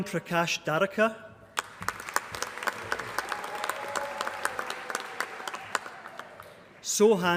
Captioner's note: applause